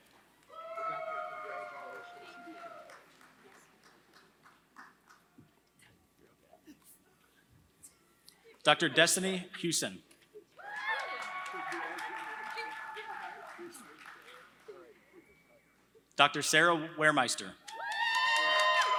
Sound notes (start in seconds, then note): 10.6 applause; 17.6 applause